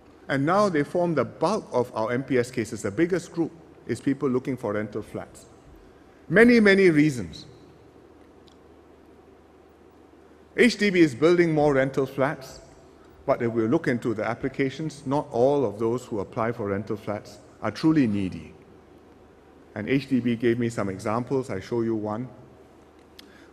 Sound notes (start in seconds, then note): none